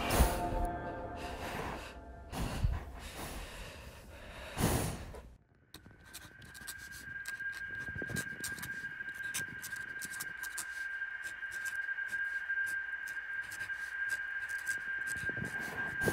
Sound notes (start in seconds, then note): 2.2 breathing